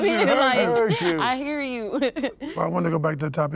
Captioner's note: laughs